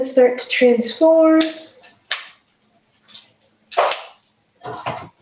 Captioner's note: utensil clicking